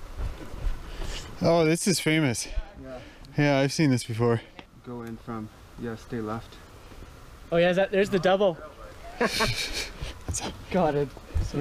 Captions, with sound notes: Oh, this is famous. Yeah. I've seen this before. - Go in from, yeah, stay left. - Oh yeah. There's the devil. (laughing) Got it.